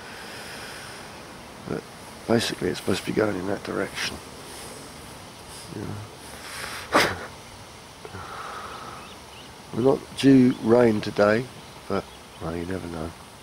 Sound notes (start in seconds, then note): 6.9 laughing